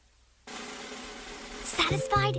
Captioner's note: whispering